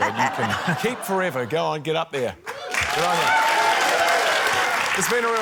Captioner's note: cheering, applause